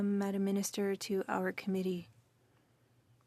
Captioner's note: speaking French